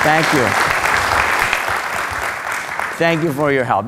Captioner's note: applause